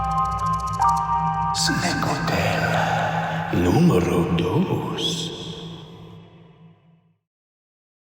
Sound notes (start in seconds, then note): 1.8 voiceover